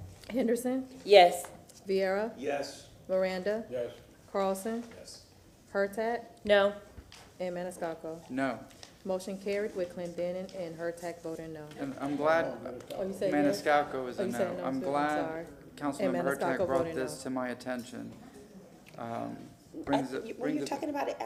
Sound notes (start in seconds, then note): none